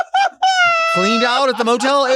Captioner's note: Sapphira laughs